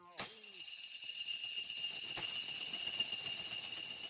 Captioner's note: bells jingling